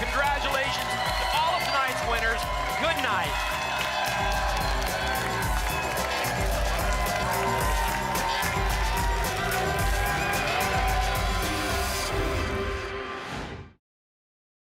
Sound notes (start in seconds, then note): 3.9 applause and cheering cont; 12.1 whoosh